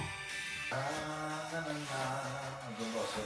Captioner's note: humming